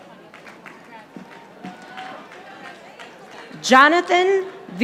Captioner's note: audience applauding